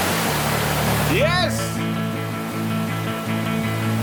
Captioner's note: shout of joy that the spotlight is working